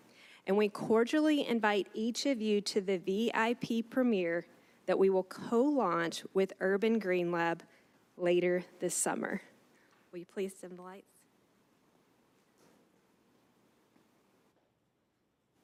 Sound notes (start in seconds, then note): none